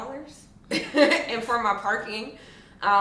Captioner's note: laughs